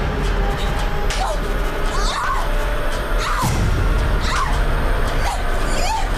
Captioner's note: slap